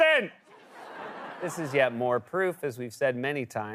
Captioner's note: laughter